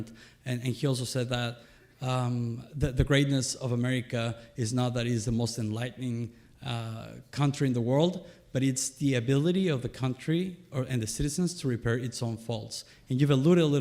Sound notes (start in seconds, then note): none